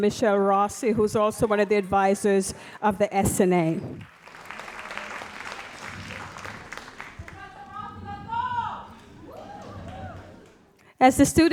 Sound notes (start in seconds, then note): 3.8 audience applauds; 7.0 audience member shouting